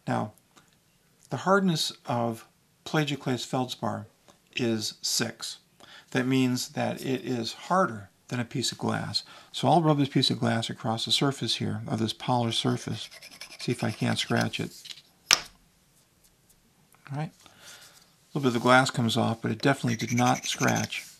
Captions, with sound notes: Now, the hardness of plagioclase feldspar is six. That means that it is harder than a piece of glass. So I'll rub this piece of glass across the surface here of this polished surface here, (glass scraping) see if I can't scratch it. All right. Little bit of the glass comes off, but it definitely did not scratch